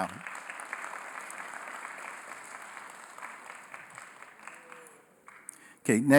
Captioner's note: applause